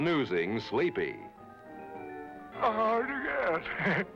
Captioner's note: chuckling